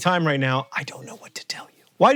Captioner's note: whispering